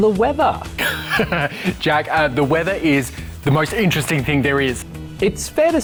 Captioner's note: laughs